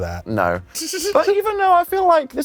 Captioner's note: titters